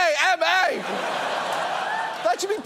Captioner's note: audience laughs